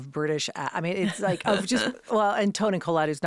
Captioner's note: Kate laughing